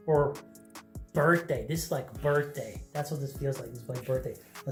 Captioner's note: Arabic